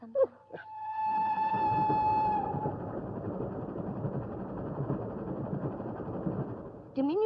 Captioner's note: train noise in the background